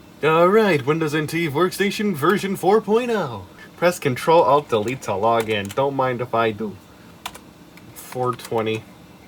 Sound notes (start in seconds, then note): 8.0 hits random key